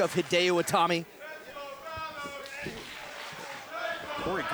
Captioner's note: fans chanting